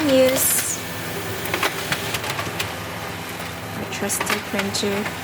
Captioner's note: copier whirring